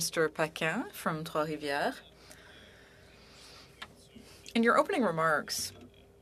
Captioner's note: speaking French